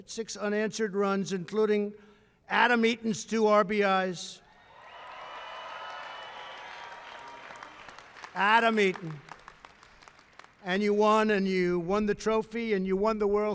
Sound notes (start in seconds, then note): 4.6 applause